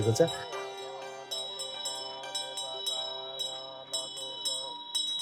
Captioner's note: bell ringing; monk chanting